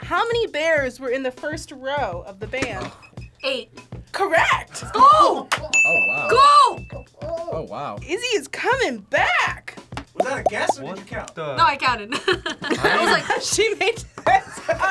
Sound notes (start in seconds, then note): 12.1 laughs